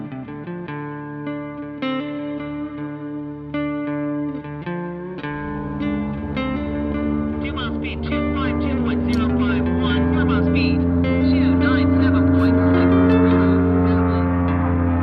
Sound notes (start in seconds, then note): 6.1 car engine revving; 10.2 announcer fades